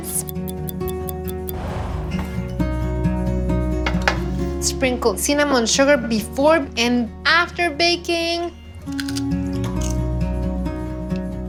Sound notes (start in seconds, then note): 8.8 Crunch